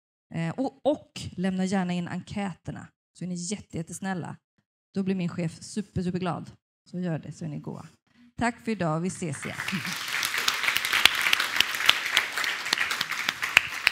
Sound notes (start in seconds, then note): 9.3 Applåder